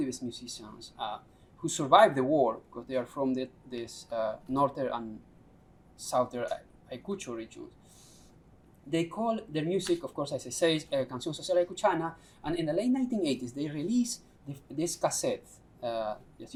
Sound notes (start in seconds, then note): 10.8 non-english speech